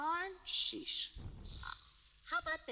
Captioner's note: snorts